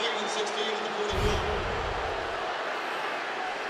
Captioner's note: pa announcement